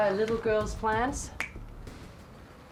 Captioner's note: snaps fingers